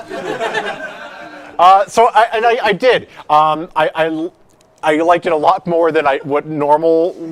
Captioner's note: laughter